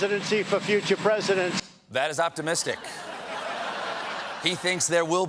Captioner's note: laughter